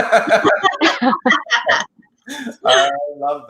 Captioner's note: laughs